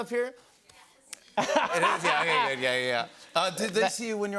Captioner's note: laughter